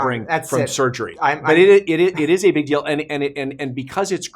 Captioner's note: scoffing